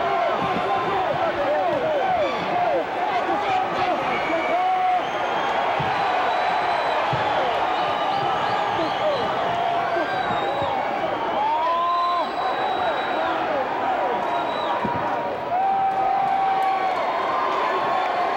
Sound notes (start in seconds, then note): 6.2 crowd cheers